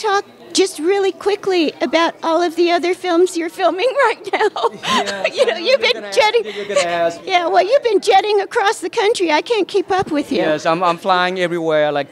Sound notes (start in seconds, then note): 4.3 laughter